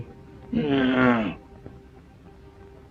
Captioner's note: grumbles